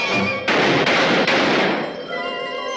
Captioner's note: gunshots